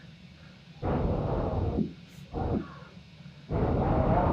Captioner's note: wind howling